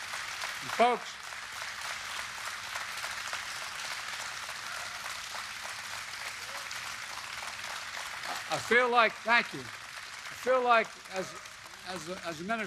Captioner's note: cheering and applause